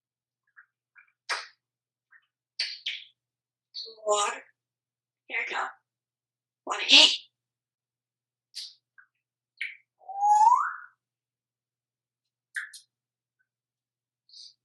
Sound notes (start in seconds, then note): 2.6 kisses; 10.0 whistle